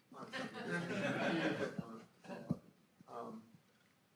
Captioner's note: audience laughs